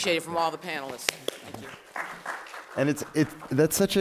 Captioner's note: applause